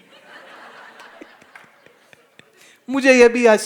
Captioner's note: Audience laughs, GuruJi laughs